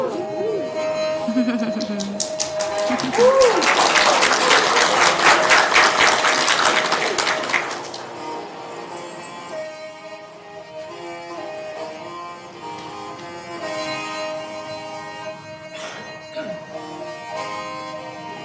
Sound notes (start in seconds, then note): 7.5 applause; 7.5 playing native instrument